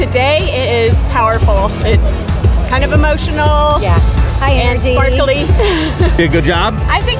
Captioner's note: laughing